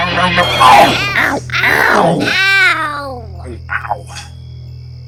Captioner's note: multiple ows from trucks